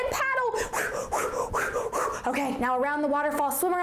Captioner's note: whooshing imitation